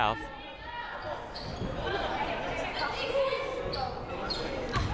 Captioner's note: crowd murmuring